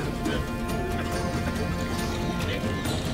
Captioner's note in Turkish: Öksürüyorlar